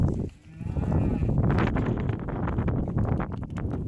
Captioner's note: cows mooing